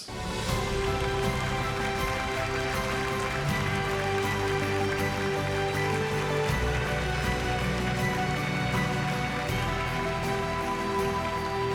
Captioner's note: applause